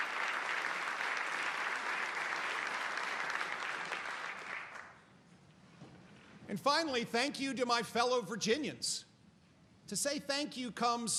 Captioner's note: applause